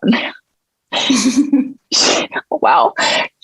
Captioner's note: everyone chuckling